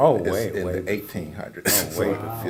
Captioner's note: laugh